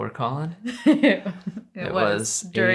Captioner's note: laughs